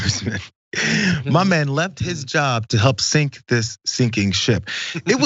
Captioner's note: laugh